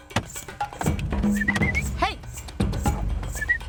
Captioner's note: whistling